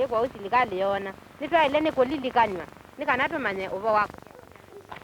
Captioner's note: non-English speech